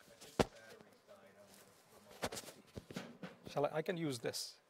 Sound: voiceover

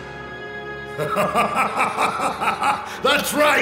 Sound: Dornkirk laughing

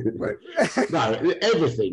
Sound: laughs

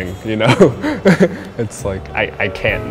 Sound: chuckles

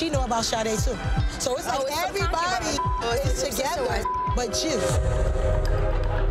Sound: beep

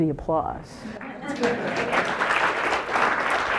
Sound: applause

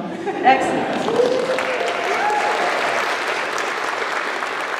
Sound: applause

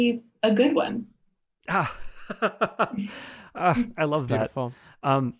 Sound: laughing

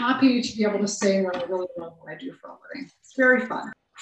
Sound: murmurs

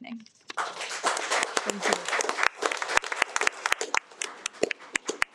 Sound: audience clapping

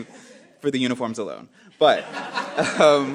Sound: laughing

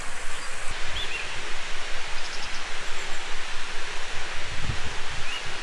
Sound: waterfall

